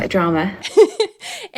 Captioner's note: laughing